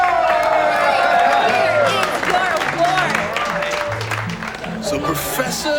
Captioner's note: cheers & applause